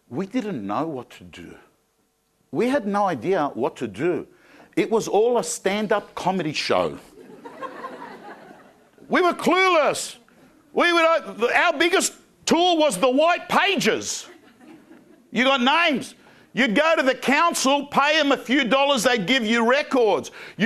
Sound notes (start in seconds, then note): 7.1 crowd laughing